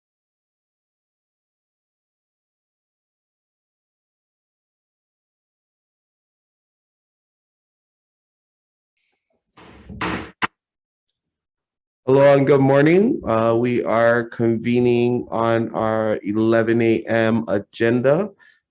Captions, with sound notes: (gavel bangs) - Hello and good morning. We are convening on our 11:00 am agenda.